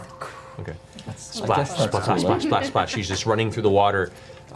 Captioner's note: blows